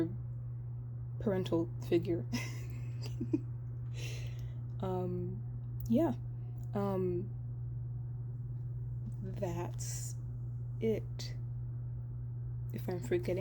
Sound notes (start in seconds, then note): 2.3 chuckles